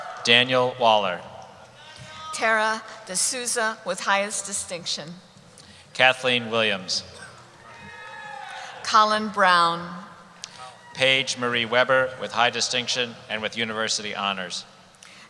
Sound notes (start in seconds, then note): 0.0 cheering; 7.2 cheering